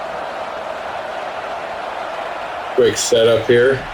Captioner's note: crowd Noises